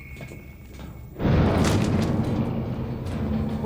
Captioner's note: rumbles, shakes